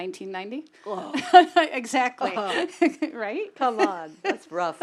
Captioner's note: laugh